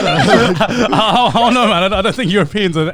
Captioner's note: all laughing